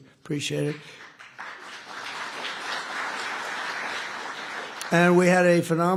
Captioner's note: applause